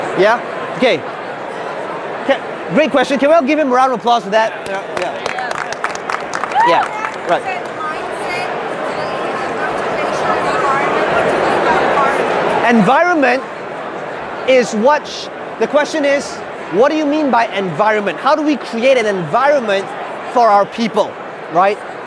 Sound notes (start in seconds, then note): 4.6 clapping